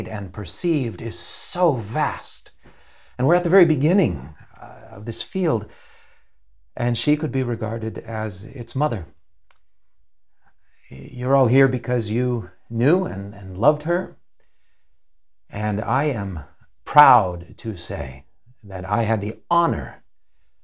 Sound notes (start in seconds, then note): none